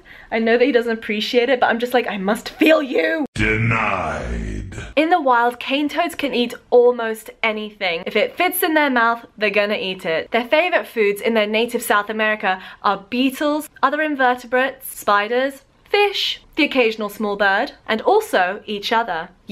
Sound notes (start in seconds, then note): 3.6 deep, altered voice